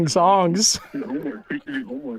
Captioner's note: Matty laughs